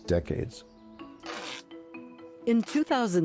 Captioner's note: ripping tape off